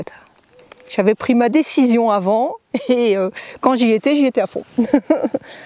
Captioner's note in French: Rires